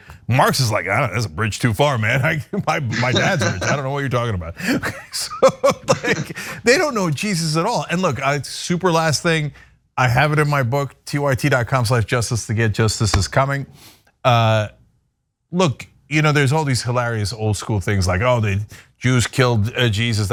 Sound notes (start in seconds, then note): 6.0 laugh